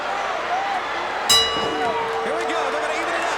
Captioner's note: bell rings